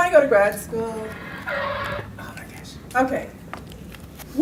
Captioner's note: power point transition sound